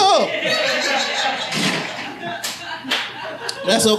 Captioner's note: audience laughing